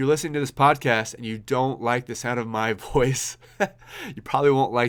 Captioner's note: laughs